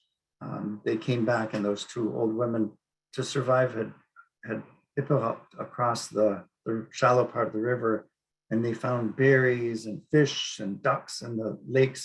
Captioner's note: speaking Inupiaq